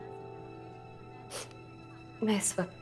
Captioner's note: Sniffs